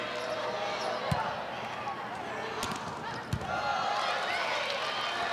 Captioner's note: ball thumping